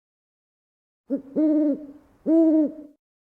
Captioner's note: owl hoots